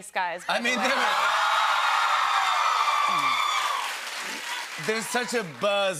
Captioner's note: cheers and applause